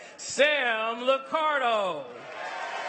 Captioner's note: cheers and applause